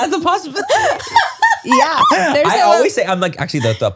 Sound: everyone laughs

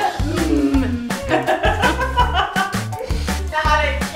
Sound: mimics mm while laughing; laughing

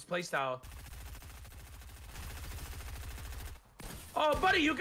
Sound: gun firing loudly

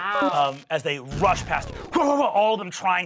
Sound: grunting

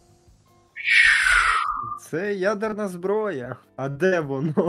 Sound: mouth rocket launch sound

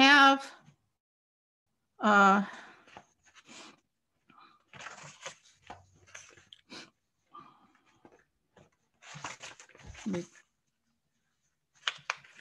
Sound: silence

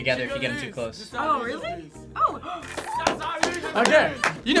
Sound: gasps

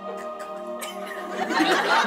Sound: laughter

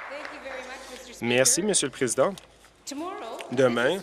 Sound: applause

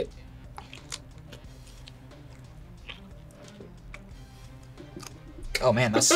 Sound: tongue squelches; laughs

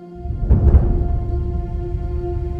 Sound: thunder rolls; dramatic orchestra music

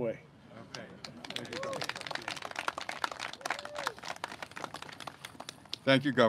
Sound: clapping

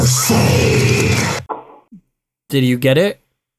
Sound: knock

